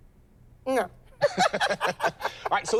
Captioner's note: laughter